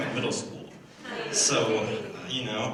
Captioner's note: laughter